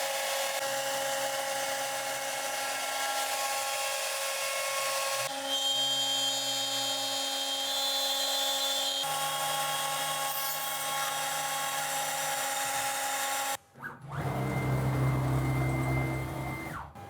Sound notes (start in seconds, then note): 5.3 CNC whining; 13.8 servo